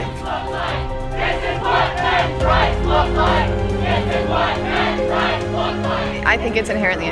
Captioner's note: chanting